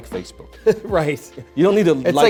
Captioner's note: laughs